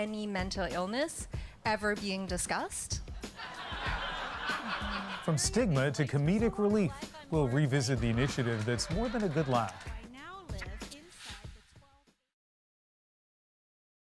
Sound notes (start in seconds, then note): 8.0 laughter